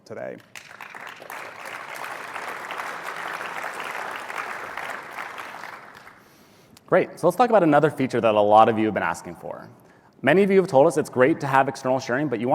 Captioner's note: applause